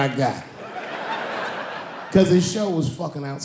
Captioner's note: laughing